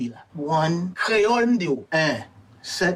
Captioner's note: character speaking in Creole; speaking in Creole